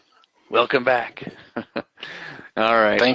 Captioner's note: laughs